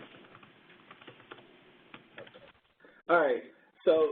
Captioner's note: 2 seconds pause